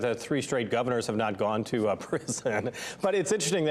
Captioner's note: laughs